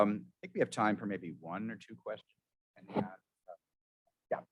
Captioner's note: murmurs